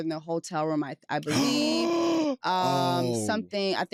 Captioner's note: gasps